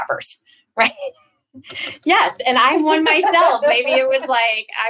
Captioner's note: laughs